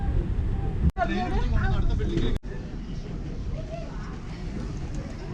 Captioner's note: people chattering